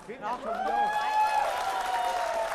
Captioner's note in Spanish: Aplauso; Gritos